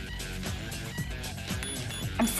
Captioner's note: phone ringing